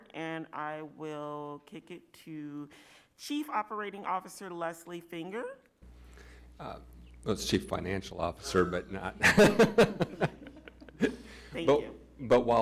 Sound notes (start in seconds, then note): 9.1 laughing